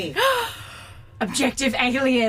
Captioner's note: Aurelia gasps